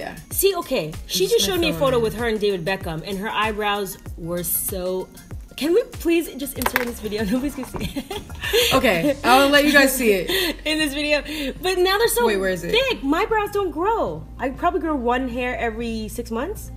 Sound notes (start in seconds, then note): 7.2 laughing